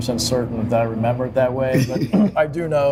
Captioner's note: laughing